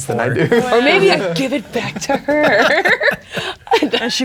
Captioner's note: laughing